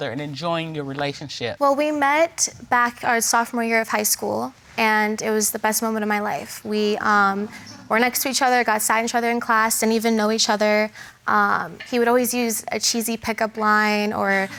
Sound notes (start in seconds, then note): none